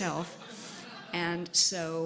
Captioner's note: laughter